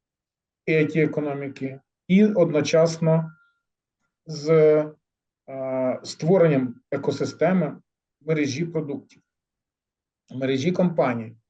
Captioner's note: speaking ukrainian